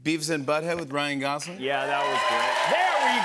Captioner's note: cheers and applause